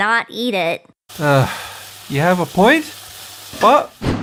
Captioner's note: sigh